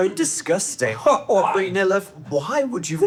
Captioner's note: laughs